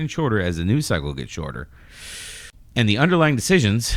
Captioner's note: uh